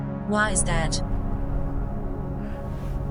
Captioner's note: static clears